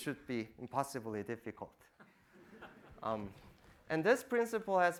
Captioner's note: audience laughing